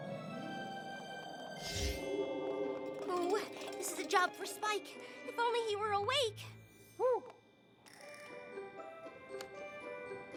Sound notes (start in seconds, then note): 1.5 whoosh!